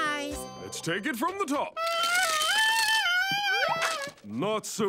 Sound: squeaking

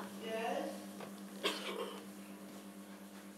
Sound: giggles

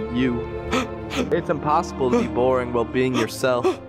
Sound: fake cries

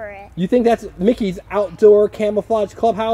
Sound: voiceover

